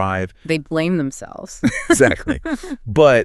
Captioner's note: laughs